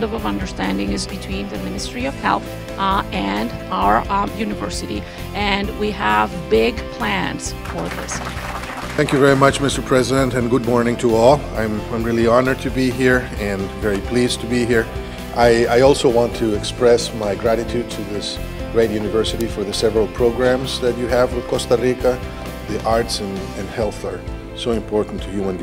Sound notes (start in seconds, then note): 7.5 clapping